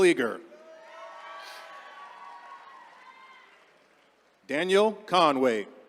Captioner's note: attendees cheering